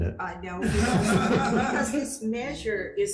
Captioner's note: attendants laughing